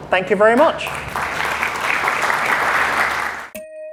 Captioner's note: applause